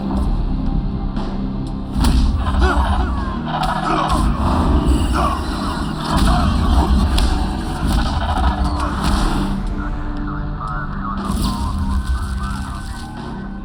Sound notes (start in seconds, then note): 1.9 punching, groaning